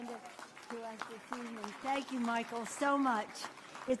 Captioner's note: applause